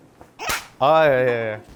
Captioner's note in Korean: 짝!